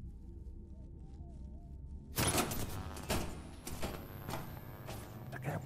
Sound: crackling

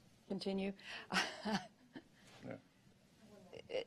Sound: laughter

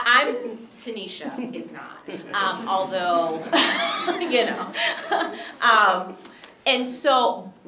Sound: chuckling

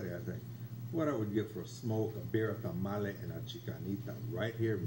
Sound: in foreign language

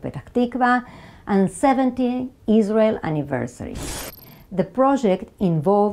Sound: graphics whooshing

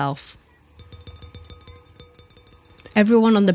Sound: dinging

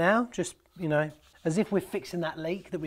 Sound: rubbing

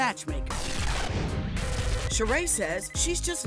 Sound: musical static

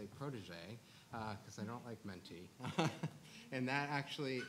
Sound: laughs

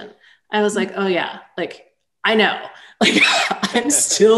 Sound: chuckles

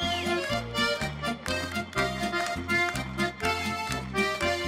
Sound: hands clapping

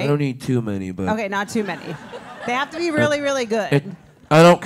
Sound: laugh

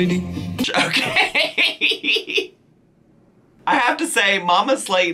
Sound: laughing

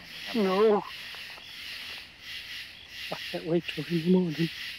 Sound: none

